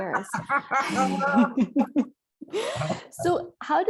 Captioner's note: both laugh